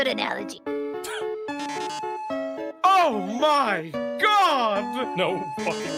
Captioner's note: laughs